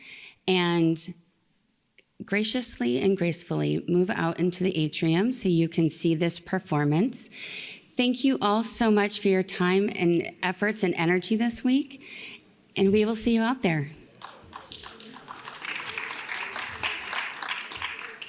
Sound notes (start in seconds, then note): 14.0 audience claps